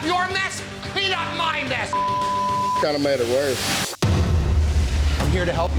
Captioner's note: beep